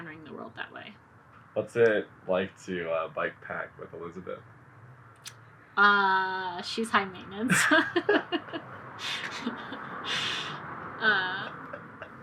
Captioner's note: both laugh